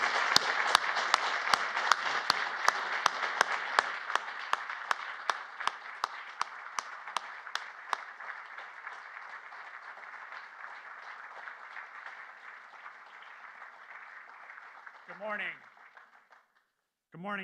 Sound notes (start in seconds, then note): 4.8 applause